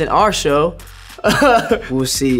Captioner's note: laughing